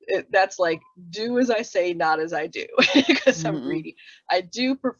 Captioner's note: laughs